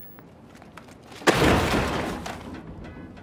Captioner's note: crash sound